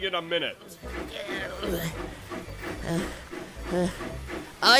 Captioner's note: straining and panting